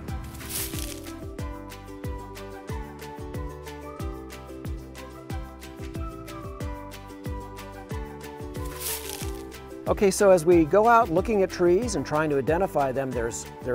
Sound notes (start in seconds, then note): 0.2 leaves crunching; 8.6 leaves crunching